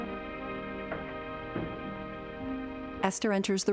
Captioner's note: door clicking shut